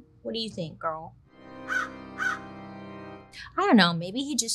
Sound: dramatic organ music; bird cawing

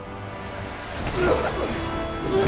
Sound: grunting

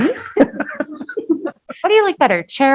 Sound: laughing

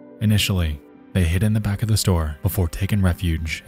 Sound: none

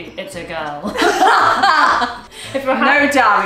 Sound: both laughing

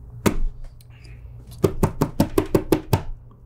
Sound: slaps table

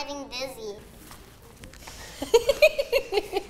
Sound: laughing

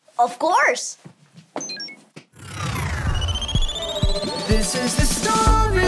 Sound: machine beeps

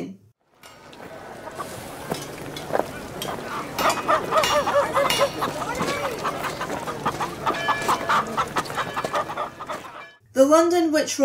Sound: city sounds

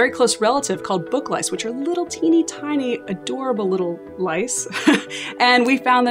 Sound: laughs

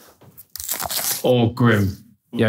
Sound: onion crunching

